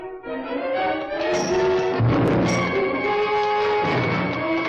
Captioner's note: weapon bangs